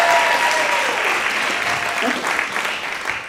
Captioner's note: audience applauding